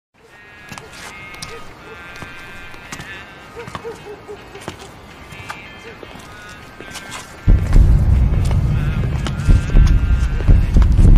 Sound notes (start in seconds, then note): 0.8 country music; 3.5 dog barking; 6.0 slow footsteps